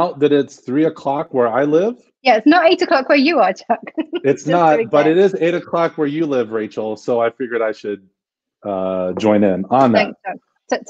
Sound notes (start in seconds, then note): 3.9 laughs